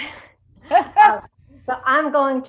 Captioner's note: laughs